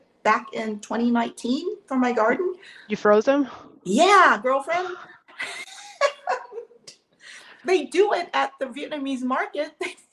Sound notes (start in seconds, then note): 4.8 laughs